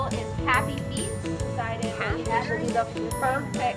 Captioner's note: speaks faintly